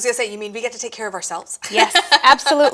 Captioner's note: laughs